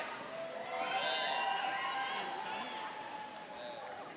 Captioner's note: cheering and applauding